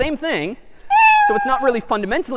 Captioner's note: meow